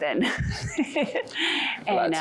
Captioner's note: laughter